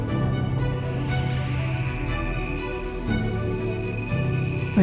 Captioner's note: signal beeping